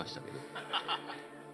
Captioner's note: laughs